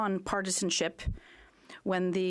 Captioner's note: speaking French